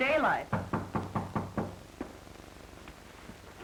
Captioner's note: knock on door